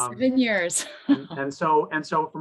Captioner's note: chuckles